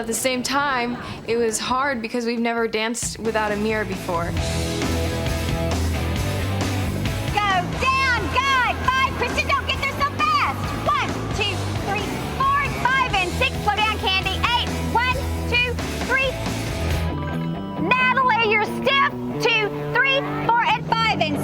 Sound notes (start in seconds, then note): 4.6 rock music; 7.8 shouting